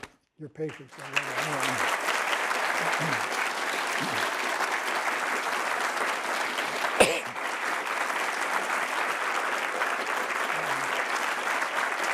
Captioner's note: applause